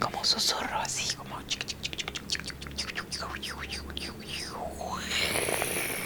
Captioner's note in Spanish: vocalizaciones suaves y risa